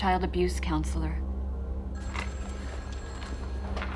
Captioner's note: telephone rings